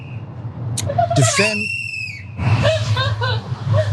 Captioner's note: laugh